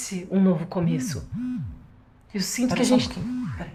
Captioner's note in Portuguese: celular vibrando